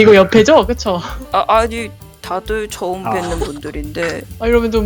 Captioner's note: laugh